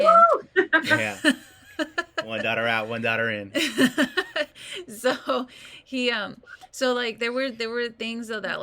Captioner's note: laughs